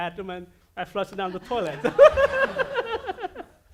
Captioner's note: audience laughing